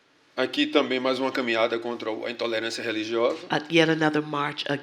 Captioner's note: speaking portuguese